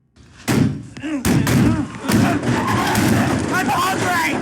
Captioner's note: blows thudding